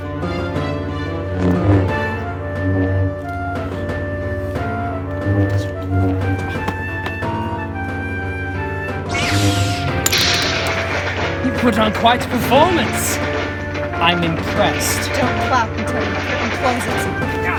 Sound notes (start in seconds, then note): none